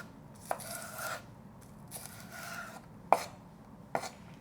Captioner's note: knife slicing